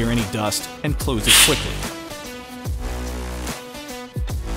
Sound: gas hisses

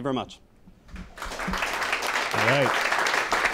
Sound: applause

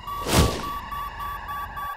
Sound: beeping

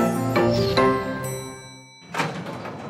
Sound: lift dings

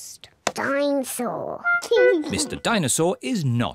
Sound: giggles

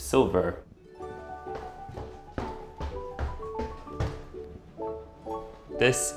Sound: playful music; foot tapping

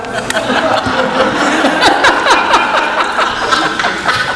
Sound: audience laughs

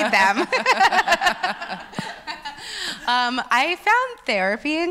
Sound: laughs

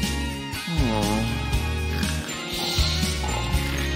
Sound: snoring

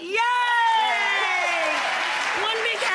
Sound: audience applauds

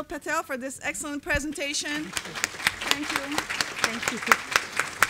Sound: applause

